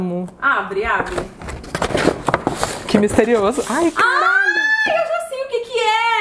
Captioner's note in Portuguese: grita